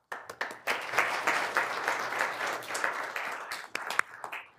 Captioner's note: all applauding